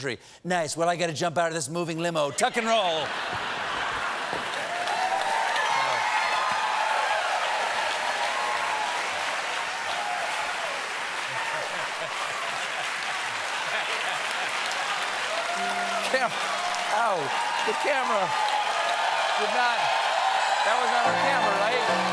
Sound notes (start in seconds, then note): 6.4 cheers and applause; 16.3 cheers and applause